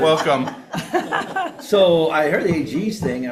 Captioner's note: attendees laughing